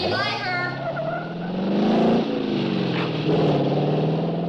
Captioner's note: engine revving